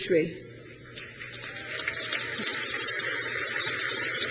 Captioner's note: crowd cheers